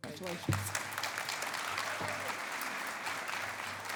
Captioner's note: applause